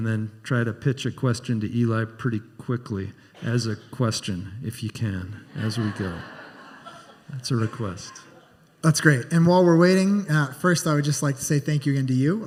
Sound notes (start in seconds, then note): 5.7 scattered laughter